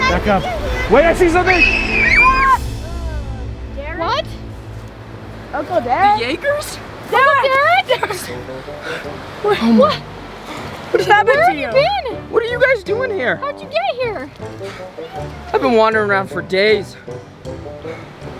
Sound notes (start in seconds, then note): 1.4 screaming; 8.7 panting